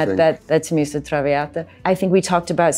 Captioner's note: Angelina speaking in Italian